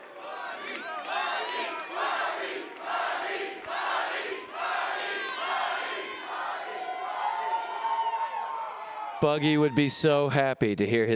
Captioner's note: cheering